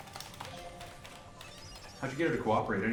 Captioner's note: rapid typing